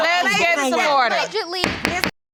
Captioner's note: gavel pounding